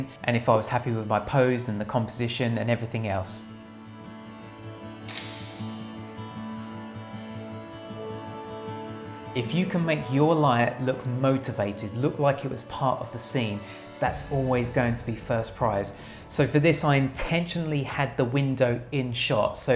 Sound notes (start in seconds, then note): 5.0 shutter sound